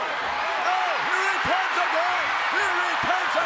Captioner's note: audience cheers